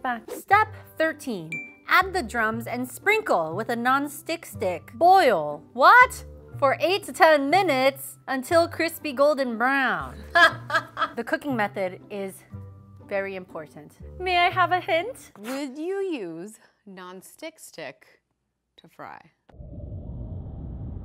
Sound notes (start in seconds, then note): 10.2 laughter